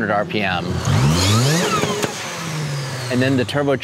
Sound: car engine revving

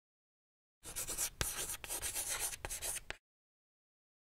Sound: chalk scratching

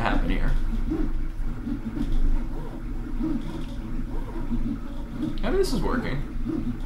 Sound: printer chugs and hums

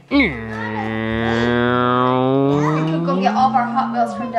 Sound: humming

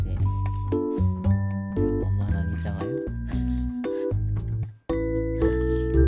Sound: sighing

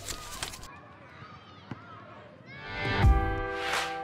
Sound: paper ruffling; children playing; slow pop music

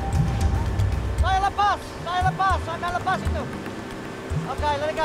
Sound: speaking Indonesian

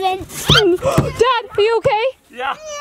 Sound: laughing; gasps

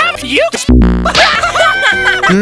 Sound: sonic_death.wav

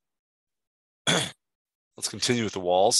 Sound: clearing throat

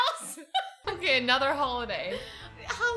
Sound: both laugh

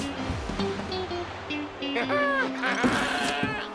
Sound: laughs

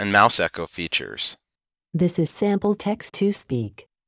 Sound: Ava synthesizer speaking

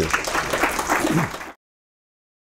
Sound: applause

